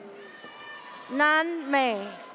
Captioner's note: audience cheers